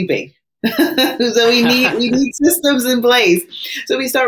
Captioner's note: laughs